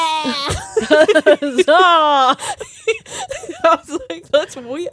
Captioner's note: both laughing